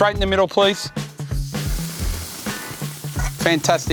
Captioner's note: steak sizzling